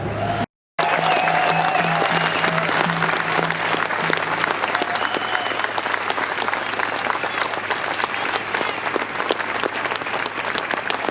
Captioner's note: applause